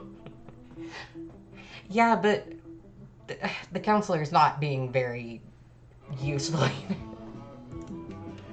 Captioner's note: giggles